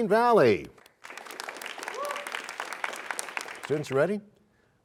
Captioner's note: cheers and applause